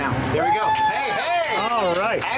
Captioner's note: cheers